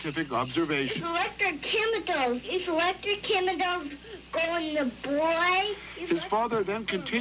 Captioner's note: young child voice